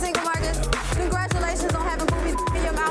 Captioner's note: beeps